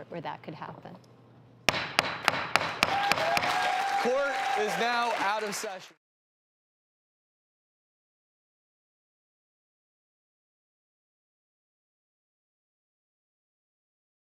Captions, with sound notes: where that could happen. (gavel slams) (audience cheers) Court is now out of session.